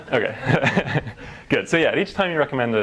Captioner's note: laugh